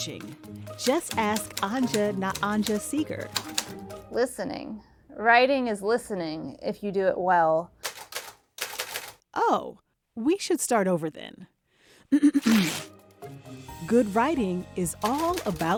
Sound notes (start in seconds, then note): 8.6 clicking typewriter keys; 12.2 clears throat, rips paper out of typewriter carriage